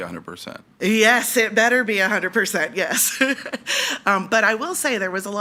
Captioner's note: laughs